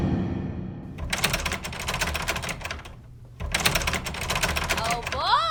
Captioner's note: door handle rattling